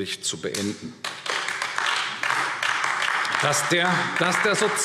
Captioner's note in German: Beifall AfD